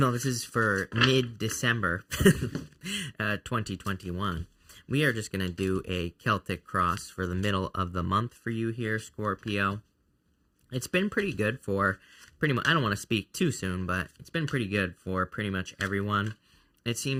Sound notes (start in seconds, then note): 2.1 chuckles